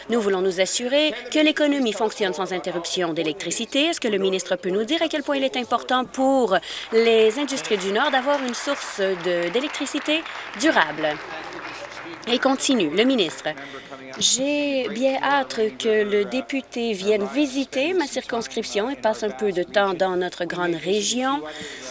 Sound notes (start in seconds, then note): 11.7 applause